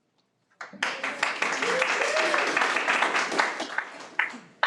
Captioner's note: audience applauds